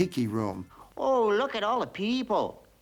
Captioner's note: Spanish accent